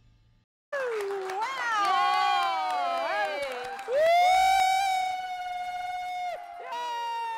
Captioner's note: cheers